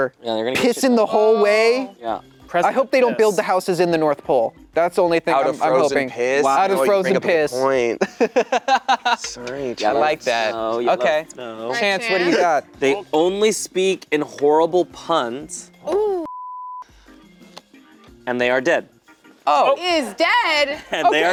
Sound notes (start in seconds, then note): 8.0 laughing; 16.3 beep